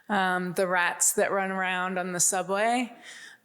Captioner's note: none